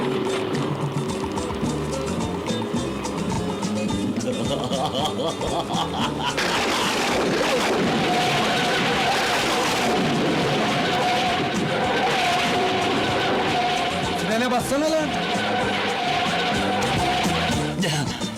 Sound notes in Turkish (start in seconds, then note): 4.1 kahkaha atar; 6.6 gök gürler